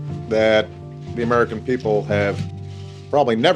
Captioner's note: soundbite of archived recording